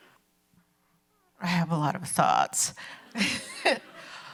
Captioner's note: chuckles